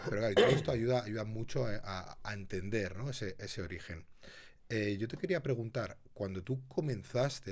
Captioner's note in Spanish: carraspeo